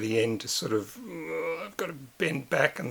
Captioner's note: constrained groan